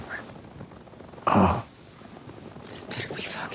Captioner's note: Tommy groaning